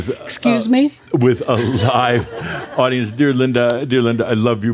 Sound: more chuckles

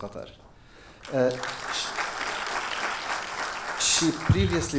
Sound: audience applause

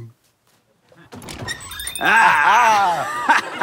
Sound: bell rings; both laugh

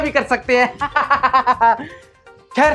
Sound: laughing

